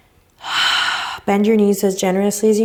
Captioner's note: exhales deeply